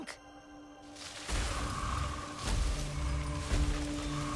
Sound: rustling; growling

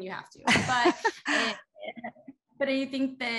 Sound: laughter

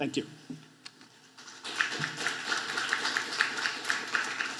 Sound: applause

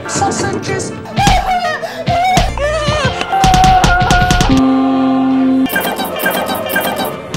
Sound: more screaming, sausage-smacking sounds

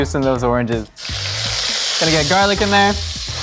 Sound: sizzling

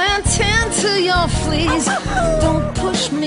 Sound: howls

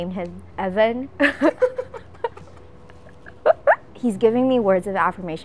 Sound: laugh

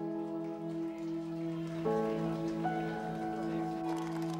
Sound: crowd applauding

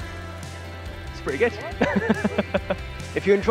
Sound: laughing

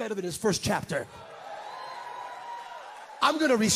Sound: congregants cheer

